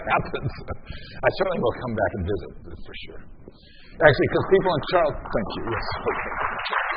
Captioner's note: applause